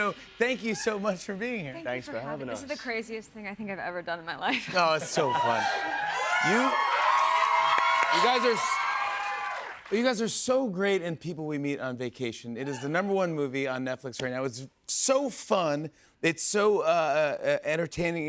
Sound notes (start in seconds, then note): 5.2 cheers and applause